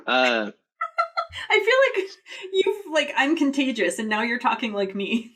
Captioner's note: laughs